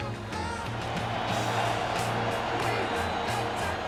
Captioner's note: cheering